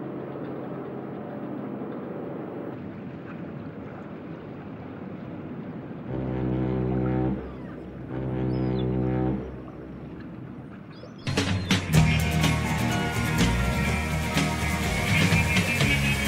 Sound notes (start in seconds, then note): 6.0 boat horn, seagulls; 11.2 adventurous music